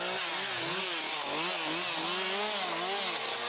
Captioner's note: continuous engine roar